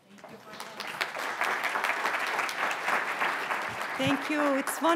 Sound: audience applauding

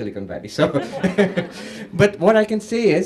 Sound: laughter

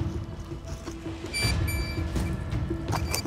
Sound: beeping continues

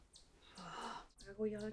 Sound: irritated sigh

